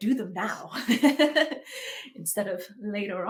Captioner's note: laughs